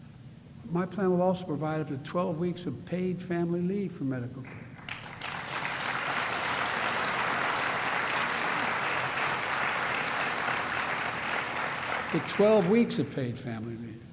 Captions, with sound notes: My plan will also provide up to 12 weeks of paid family leave for medical -- (applause) -- up to 12 weeks of paid family leave.